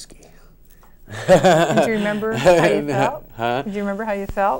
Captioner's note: laughs